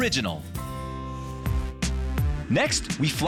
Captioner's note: air whooshing